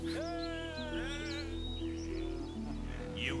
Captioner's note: cheering